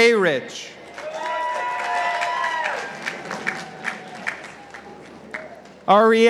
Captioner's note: participants applauding